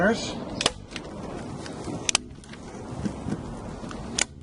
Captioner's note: staple gun clicking